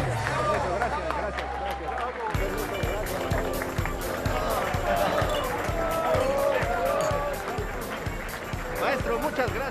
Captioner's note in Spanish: Aplausos